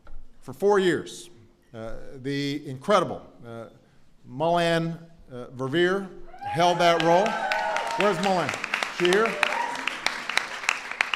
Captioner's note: applause